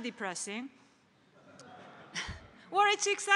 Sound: laughter

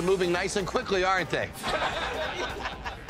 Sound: laughter

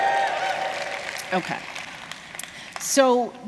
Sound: cheers

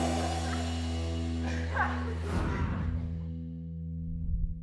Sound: cast laughing

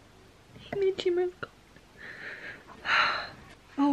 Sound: sigh

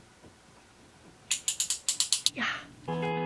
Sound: blade clicks

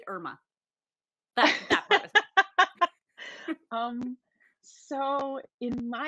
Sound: Deborah laughing

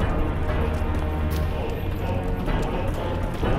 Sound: fire crackling; footsteps

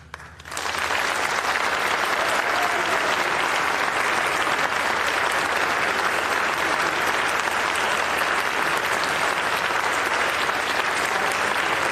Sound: applause

